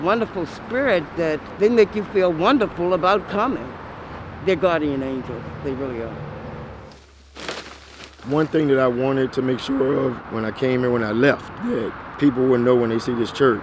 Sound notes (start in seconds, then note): 6.8 bags rustling